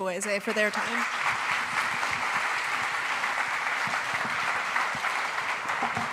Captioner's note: applause